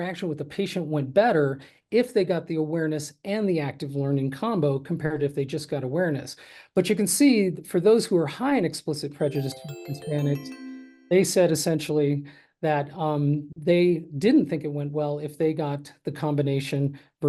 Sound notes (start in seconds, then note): 9.3 gentle electronic tones